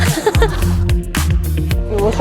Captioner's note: laughter